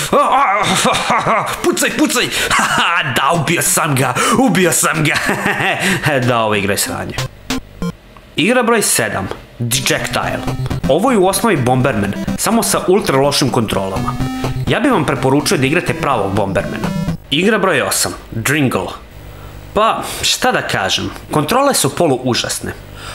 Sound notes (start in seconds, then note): 4.9 he laughs